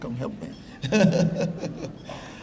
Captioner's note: laughter